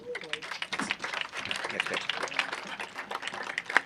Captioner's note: audience applauding